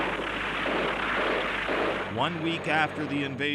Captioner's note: repeated explosions